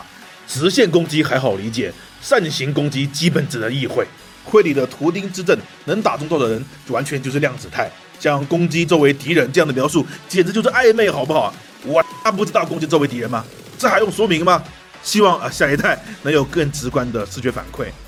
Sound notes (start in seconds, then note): 11.9 beep